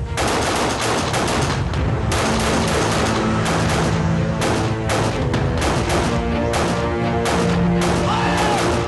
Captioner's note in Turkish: Silah sesleri